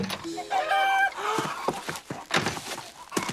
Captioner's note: clucking and squawking